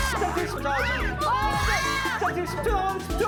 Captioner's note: rushing